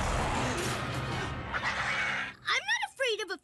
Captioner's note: mother Rat Growling; baby Rats Growling